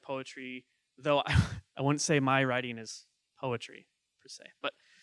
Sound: chuckling

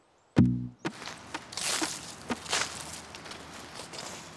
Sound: footsteps crunching on forest floor

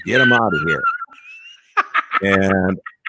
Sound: laughing

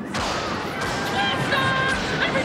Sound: people screaming

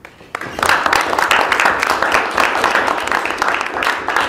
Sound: applause

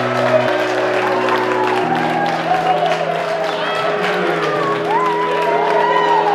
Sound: mellow music; excited chattering

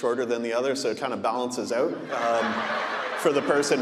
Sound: audience laughing

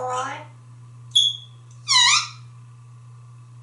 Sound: squeaky door sound

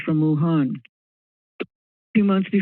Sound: silence

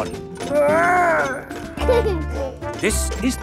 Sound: giggles

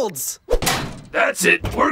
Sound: metal cranks

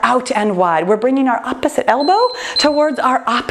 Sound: timer beeping

